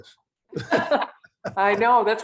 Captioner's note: laughing